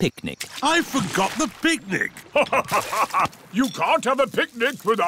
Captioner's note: laughs